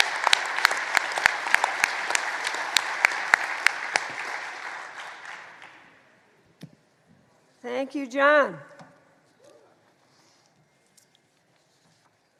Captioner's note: applause